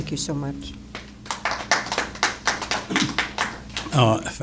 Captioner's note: applause